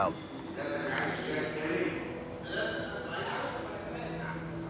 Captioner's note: speaking Arabic